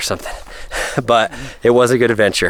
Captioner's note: laughs